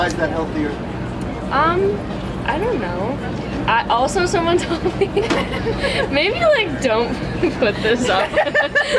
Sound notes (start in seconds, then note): 4.7 laughs; 7.2 laughter